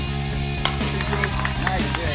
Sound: bat cracking

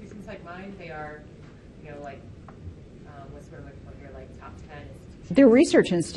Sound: talks faintly

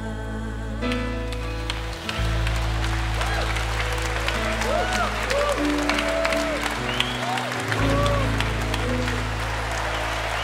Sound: applause

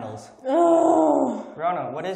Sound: groans

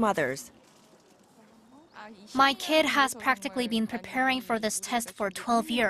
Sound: Korean

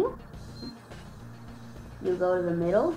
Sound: beeping

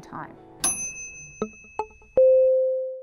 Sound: ding

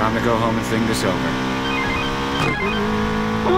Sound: phone rings

